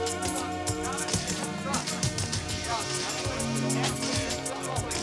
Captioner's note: press chatters